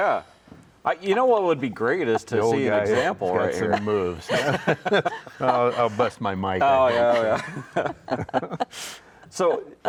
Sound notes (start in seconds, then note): 0.1 laughing; 4.5 all laughing